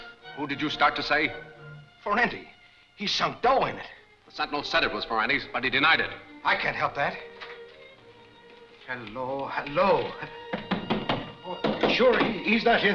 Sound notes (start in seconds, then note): 10.4 knocking on door